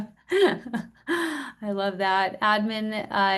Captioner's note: laughs